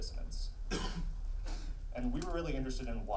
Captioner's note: coughs